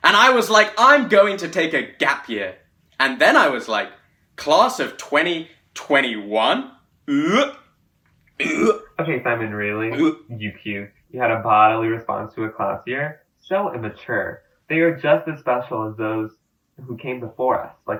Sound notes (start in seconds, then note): 7.0 mimics vomiting